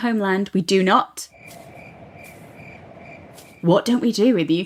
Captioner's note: crickets chirping